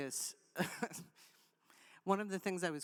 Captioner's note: chuckles